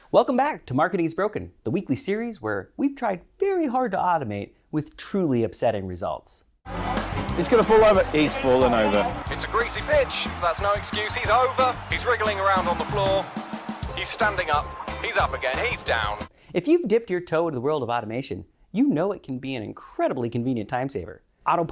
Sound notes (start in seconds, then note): 6.7 crowd cheering